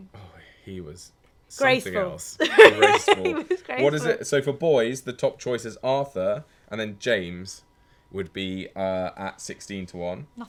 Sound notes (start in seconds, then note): 2.4 laughing